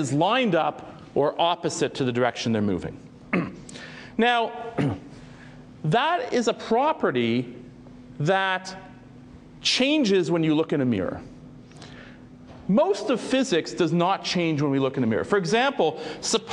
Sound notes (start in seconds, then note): 3.3 cough